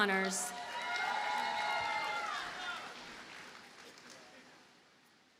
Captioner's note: audience cheers and applauds